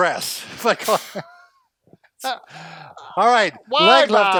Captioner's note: laughs